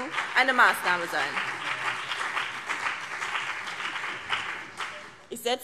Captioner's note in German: Beifall BÜNDNIS 90/DIE GRÜNEN und vereinzelt CDU